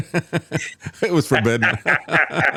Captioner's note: laughing